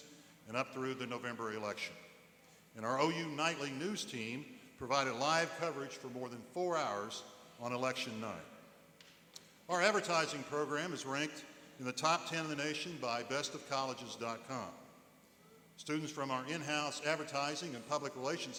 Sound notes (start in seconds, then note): none